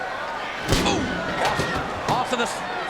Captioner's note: Austin slams